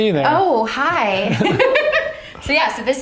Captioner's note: both laugh